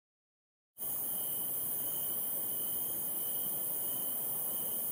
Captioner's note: sonido de insectos